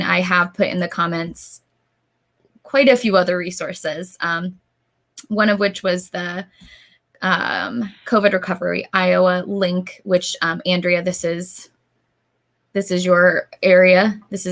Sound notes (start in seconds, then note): none